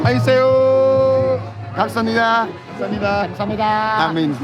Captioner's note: speaking Korean